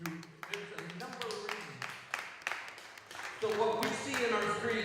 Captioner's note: applause